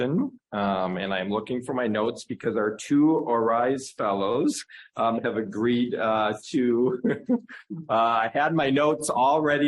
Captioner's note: laughs